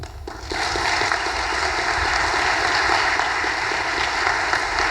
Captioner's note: audience applause